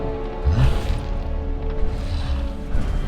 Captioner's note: grunt